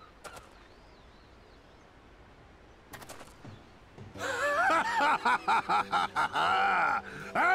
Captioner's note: laughs